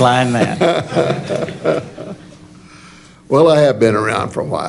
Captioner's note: laughter